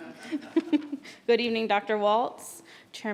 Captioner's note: chuckling